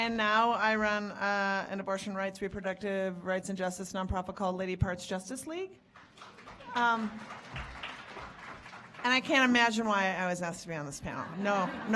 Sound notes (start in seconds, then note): 5.8 audience clapping